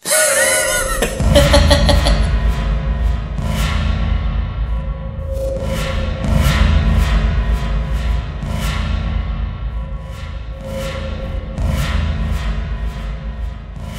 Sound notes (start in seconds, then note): 0.0 laughter; 2.6 creepy ambience